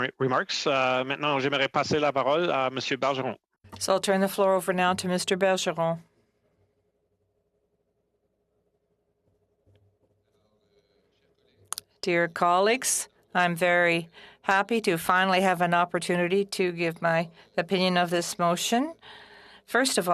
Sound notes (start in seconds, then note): 6.4 speaking French